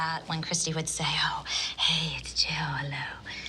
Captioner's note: breathy